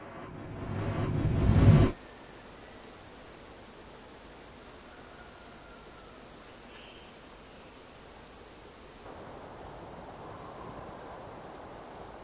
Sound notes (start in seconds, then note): 3.9 birds chirping